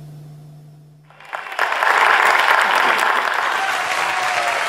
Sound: crowd cheers

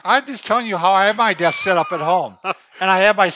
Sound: laughs

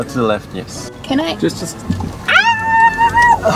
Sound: yelling

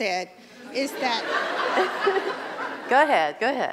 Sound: laugher

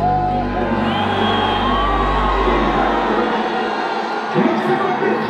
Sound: crowd cheers

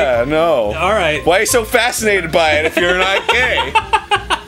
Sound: laughing

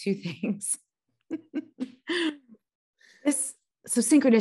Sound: laughing

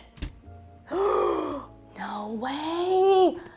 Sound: gasps

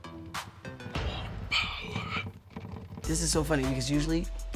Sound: does impression

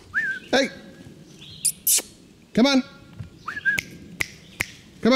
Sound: whistles; snaps fingers

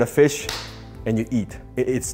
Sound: claps hands

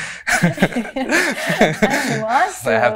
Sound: both nervously laugh

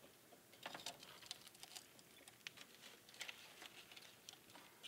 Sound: metal rattling

